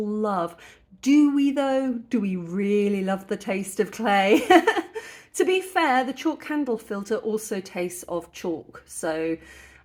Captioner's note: laughing